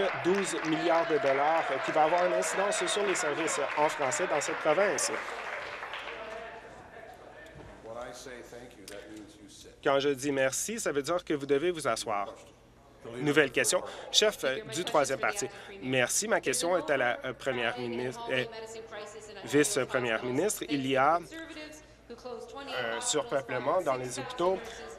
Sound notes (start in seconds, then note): 5.6 applause